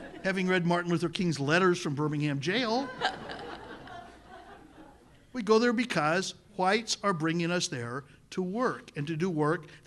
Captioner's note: laughter